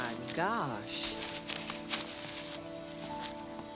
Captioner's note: leaves rustling; birds chirping